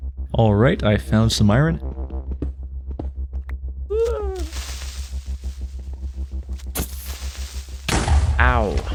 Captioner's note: manful cry